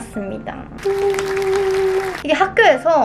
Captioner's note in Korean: 짝짝짝